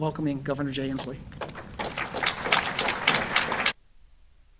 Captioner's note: applause